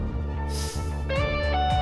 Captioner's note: determined music playing; inhales sharply